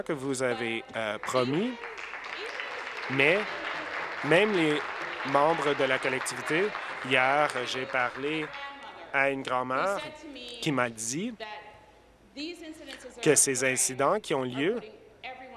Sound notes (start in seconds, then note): 5.3 applause